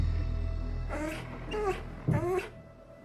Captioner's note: whimpers